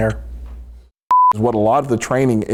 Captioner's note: beep